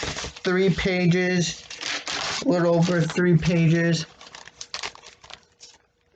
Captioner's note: rustling of paper; crinkling of page turning